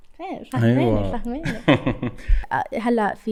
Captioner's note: laughter